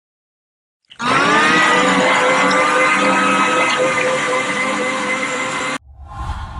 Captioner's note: loud blender noises